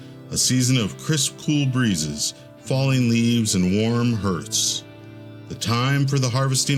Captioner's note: none